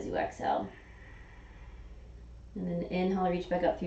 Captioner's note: exhaling